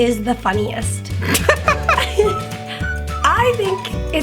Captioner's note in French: Les deux rient